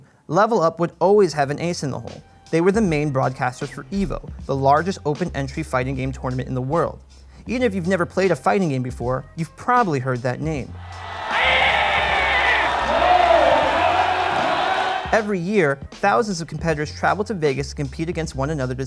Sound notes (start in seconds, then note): 11.2 yelling; 12.7 crowd cheering